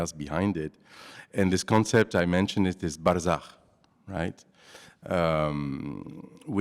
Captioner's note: non-english